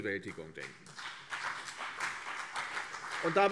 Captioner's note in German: Beifall CDU und BÜNDNIS 90/DIE GRÜNEN